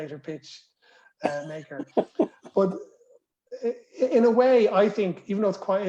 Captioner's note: laughter